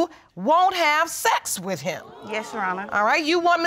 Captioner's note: audience exclaims